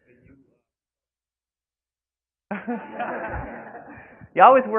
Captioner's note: laughing